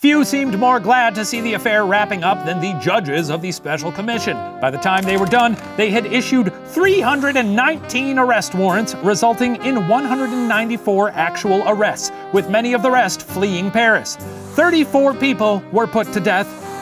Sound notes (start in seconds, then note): none